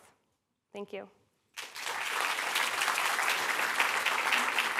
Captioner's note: applause